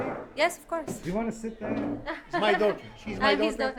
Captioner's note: voiceover; laughing